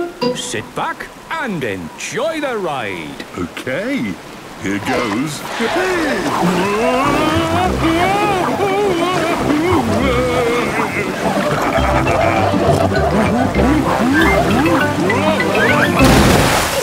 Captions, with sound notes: - Sit back and enjoy the ride! - Okay, here goes! Wee! Whoa! (Daddy Pig shouting) (laughing, snorting)